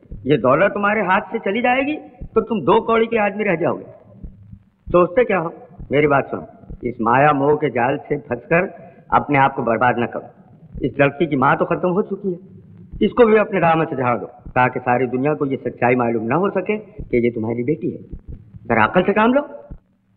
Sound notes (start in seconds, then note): none